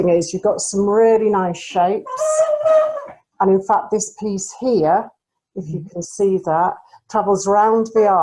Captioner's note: mannequin squeaks